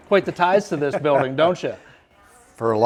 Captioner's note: laughs